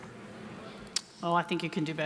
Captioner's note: crowd